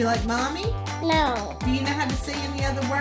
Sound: voiceover; voiceover

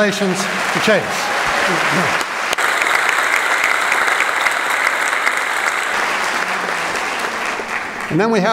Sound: applause

